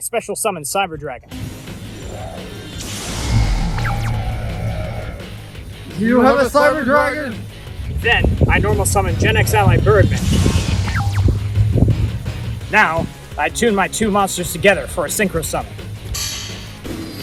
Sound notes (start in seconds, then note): 3.2 cyber dragon roar